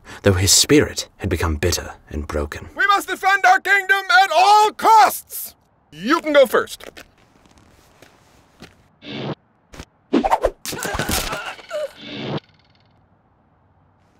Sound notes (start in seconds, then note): 10.1 arrows stabbing; 10.6 Jonathan yelping